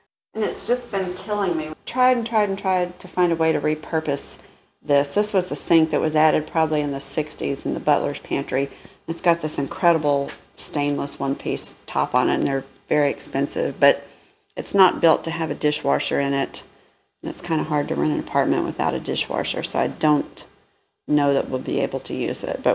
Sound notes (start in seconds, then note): none